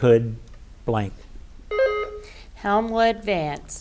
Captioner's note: button buzzing